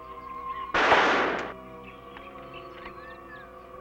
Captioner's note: gun firing